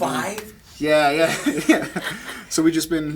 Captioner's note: laughing